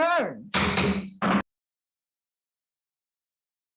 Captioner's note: gavel taps